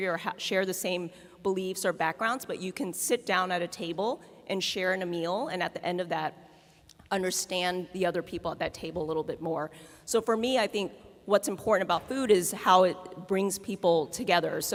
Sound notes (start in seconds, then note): none